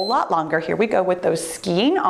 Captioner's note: timer beeps